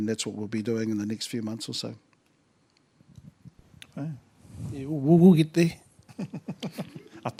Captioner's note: laughter